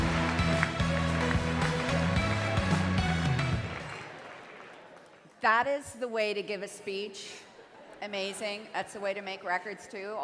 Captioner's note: cheering and Applause